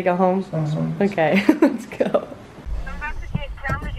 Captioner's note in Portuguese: risos